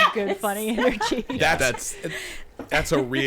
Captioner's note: laughing